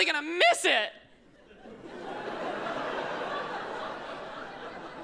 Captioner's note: audience laughs